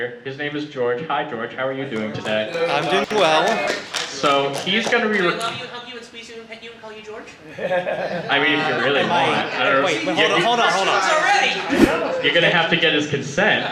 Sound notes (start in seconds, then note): 2.2 audience applause; 7.5 audience laughter